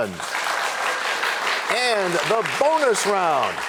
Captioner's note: applause